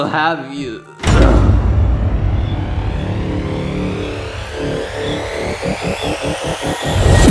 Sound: dramatic music; body thuds

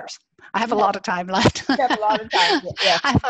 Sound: laughs

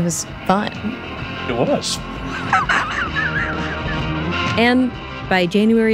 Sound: laughs

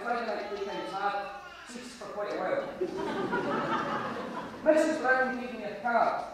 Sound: audience laughter

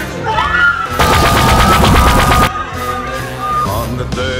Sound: screaming

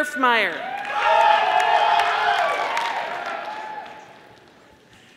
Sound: audience applauding

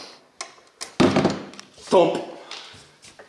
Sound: matals thuds

